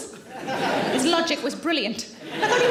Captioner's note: audience laughing